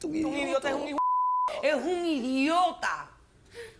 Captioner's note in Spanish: Se escucha un "bip"